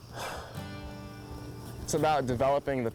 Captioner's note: sighs